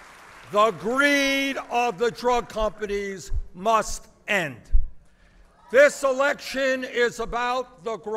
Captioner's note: applause